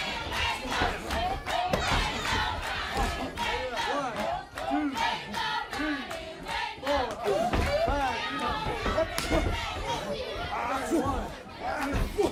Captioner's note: crowd cheering